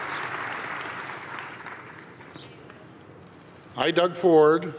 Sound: applause

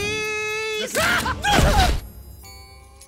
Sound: shrieking

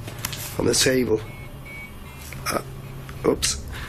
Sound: beeping

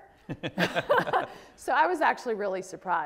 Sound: both laugh

